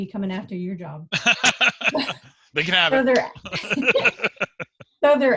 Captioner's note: laughs